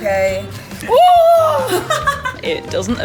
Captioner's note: women laughing